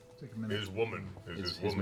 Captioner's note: none